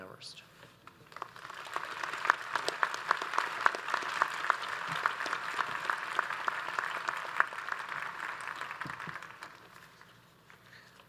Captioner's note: audience applauds